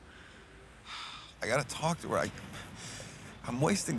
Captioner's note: sighs